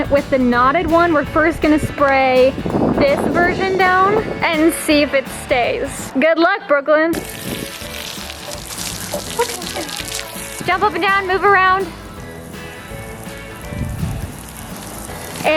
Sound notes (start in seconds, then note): 7.1 water splashing; 12.7 upbeat music